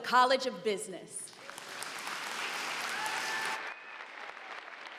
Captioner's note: applause